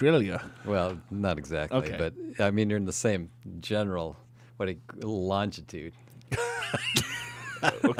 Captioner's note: laughs